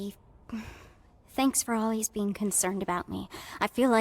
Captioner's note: sighs